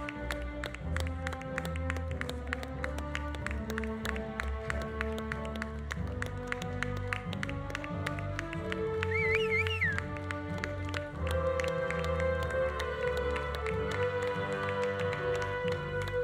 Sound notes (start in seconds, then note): 9.0 audience whistling; 9.1 audience applauding